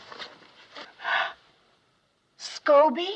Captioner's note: gasps